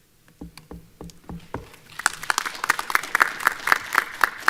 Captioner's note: applause